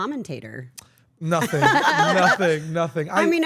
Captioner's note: laugh